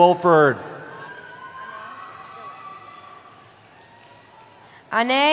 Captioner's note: cheering